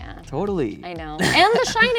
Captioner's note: Dave laughs